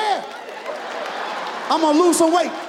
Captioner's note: audience laughs